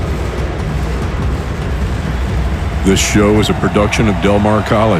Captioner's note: people shouting